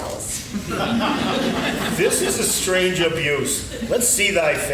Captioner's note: laughing